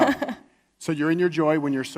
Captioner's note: laughs